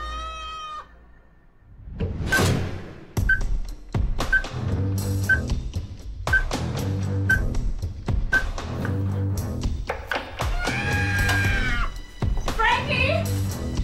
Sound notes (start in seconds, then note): 4.3 beeping; 10.5 mrs. gaye shrieking